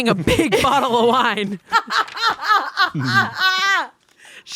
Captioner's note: laughing